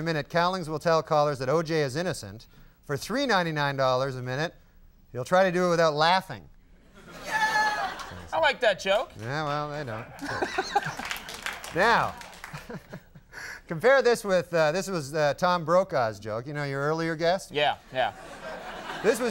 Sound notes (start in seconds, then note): 6.9 audience laughing; 9.8 audience laughing; 9.9 Conan laughing; 12.4 Norm laughing; 18.1 audience laughing